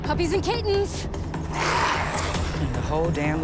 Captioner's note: zombies growling